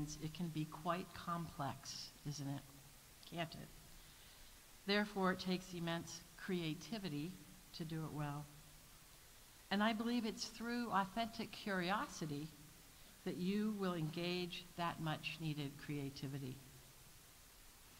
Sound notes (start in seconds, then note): none